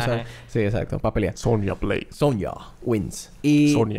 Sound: game voice

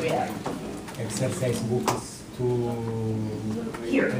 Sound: voiceover

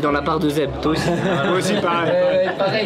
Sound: laughs

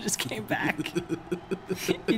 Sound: laugh

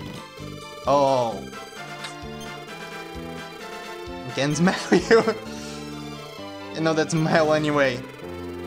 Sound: laughs

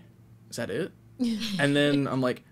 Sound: chuckles

